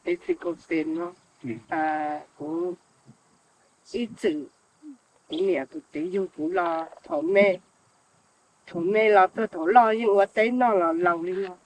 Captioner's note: speaks foreign language